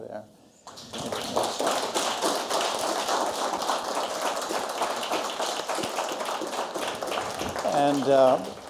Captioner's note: applause